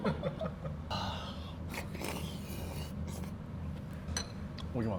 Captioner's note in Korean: 후룹